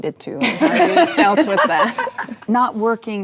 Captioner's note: laughing